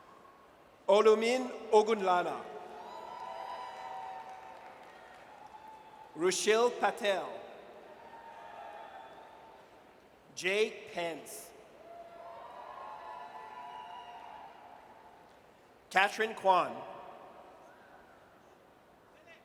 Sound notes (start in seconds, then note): 2.6 audience cheers; 8.0 audience cheers; 11.8 audience cheers